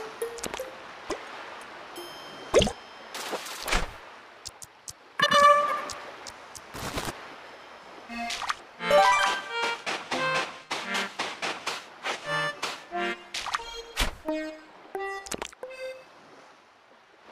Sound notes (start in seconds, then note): 9.1 footsteps